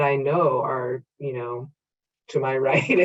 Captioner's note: laughing